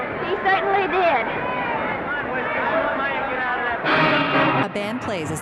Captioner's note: crowd chattering indistinctly